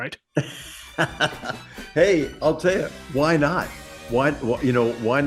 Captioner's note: laugh